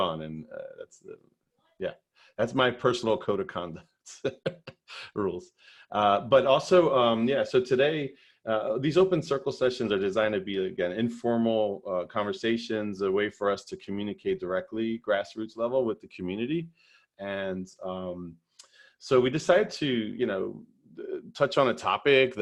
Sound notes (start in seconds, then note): 4.0 chuckles